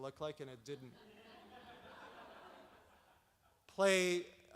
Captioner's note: audience laughs